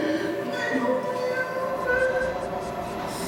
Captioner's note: crying